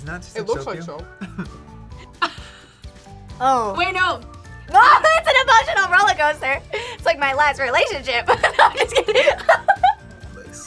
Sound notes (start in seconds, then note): 1.2 laughs; 8.2 laughs